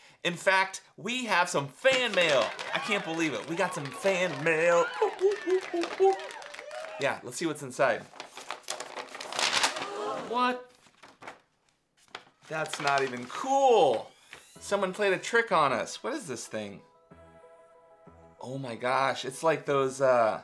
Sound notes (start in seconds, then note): 4.9 Mr. C woofing; 8.0 envelope creaking